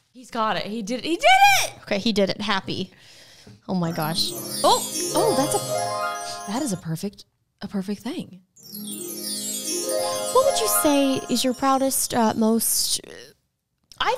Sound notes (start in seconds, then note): 3.9 phone chiming; 8.6 phone chiming